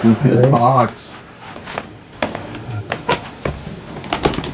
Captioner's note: chair creaking